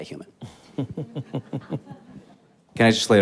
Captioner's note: all chuckling